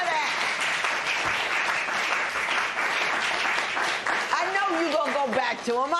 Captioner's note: applause